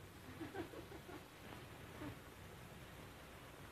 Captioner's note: women giggling